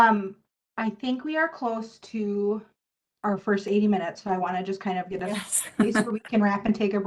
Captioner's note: laughter